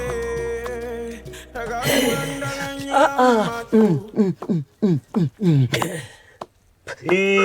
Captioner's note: guttural sounds